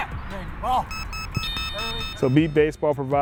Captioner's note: alarm beeping